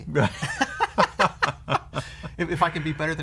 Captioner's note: laughter